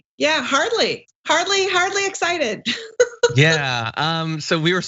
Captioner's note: laugh